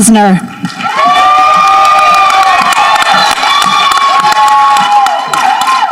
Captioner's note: people applauding and cheering